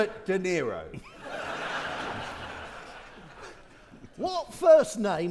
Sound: audience laughing

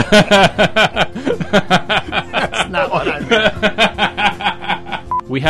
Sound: laughter, much laughter; continues laughing hysterically

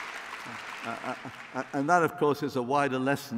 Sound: applause

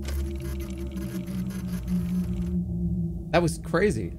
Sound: machine whirring

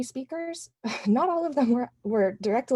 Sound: laughter

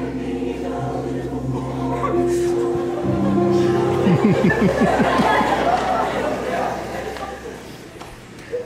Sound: crying and sobbing

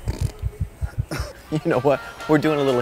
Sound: snort

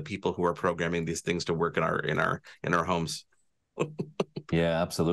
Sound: chuckles

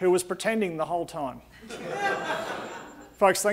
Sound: audience laughing

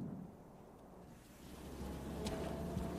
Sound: vehicle approaches

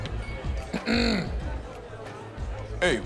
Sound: clears throat

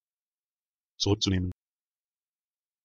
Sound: fast Pronunciation

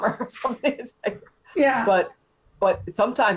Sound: chuckling

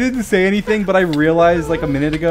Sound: laughing

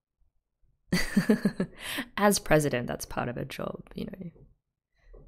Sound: laughs

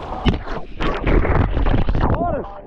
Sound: camera thuds

